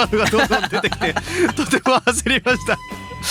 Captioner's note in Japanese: 笑い